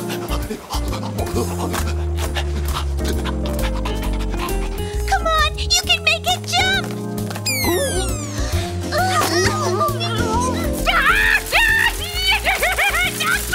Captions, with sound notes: (dog panting) - Come on, you can make it, jump! (dog yells) (squeaking) (girls shouting) (dog yelping) (screaming)